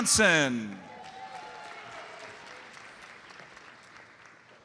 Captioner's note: audience applauds